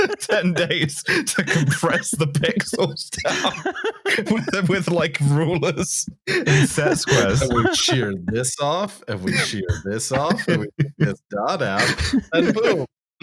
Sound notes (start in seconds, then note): 0.0 laughter; 0.0 laughing; 3.9 laughter; 6.9 laughter; 9.1 laughter